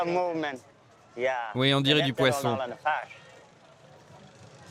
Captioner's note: foreign spoken audio